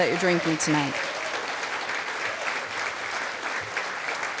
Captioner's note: applause